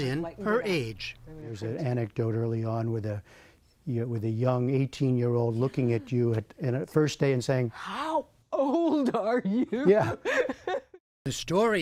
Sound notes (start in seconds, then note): 8.6 laughter